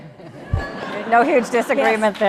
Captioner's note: laughing